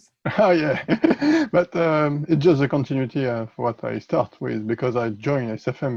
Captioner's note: laughs